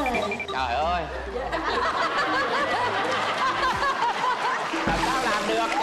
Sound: laughter

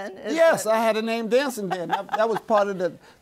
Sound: laughs

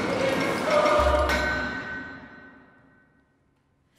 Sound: hammer sound

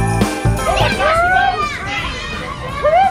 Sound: kids talking

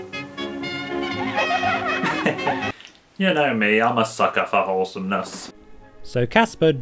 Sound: chuckles

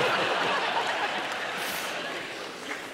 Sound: laughter

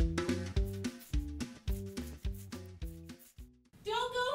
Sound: coin scratching

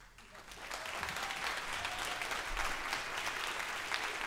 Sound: audience applauds

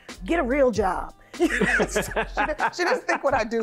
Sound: laughing

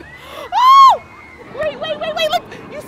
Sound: yells

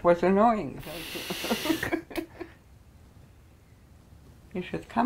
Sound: both laugh

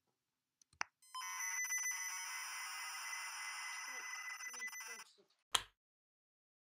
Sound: high-pitched electronic screeching

